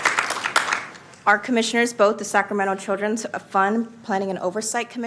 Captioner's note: applause